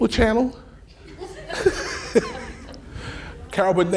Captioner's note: laughing